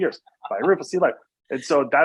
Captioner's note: laughs